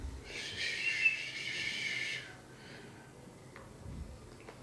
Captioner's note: whistling